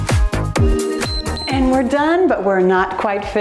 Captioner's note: timer beeps